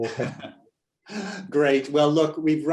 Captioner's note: laughing